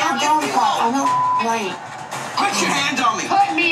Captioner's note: beep